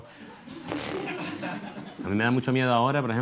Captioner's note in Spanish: Risas